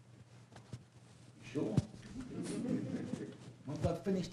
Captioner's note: laughter